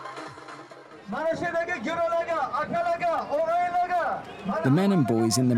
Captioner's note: man speaking Uzbek over a microphone